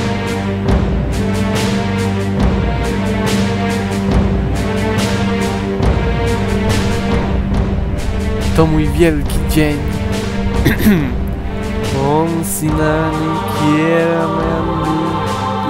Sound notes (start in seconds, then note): 12.1 incantation